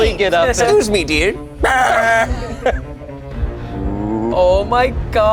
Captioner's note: yells